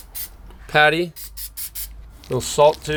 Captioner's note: cooking spray spritzing